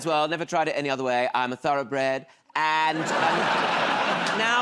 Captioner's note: laughter